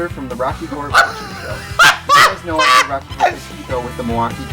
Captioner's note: laughing